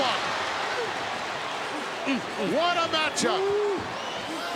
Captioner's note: applause